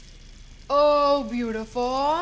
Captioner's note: none